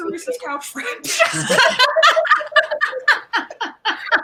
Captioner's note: all laugh